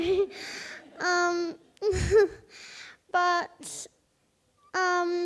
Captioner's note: audience laughs